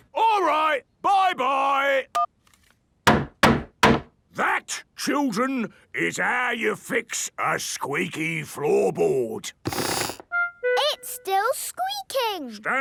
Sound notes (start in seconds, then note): 3.0 hammering; 9.7 squeaks